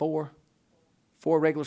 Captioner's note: voiceover